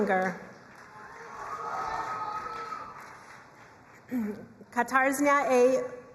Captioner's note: crowd cheering and applauding